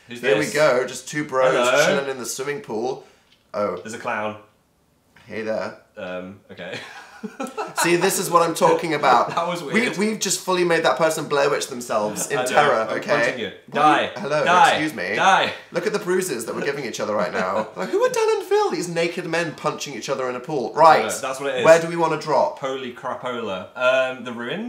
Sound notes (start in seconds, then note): 6.8 laughs